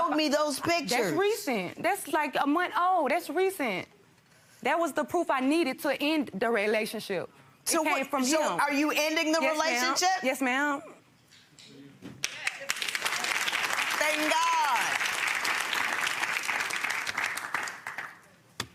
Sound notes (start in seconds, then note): 12.2 audience applauds